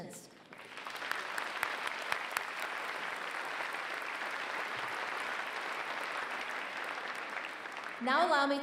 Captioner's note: applause